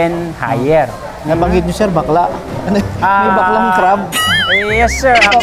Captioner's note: laugh